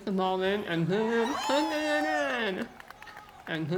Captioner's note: audience cheers